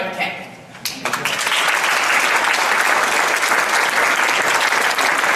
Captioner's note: audience applauds